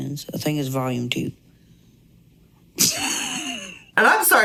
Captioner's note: laughs